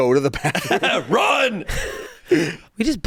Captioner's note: laughs